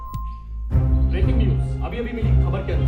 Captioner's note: news on TV